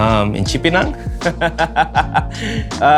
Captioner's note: laughs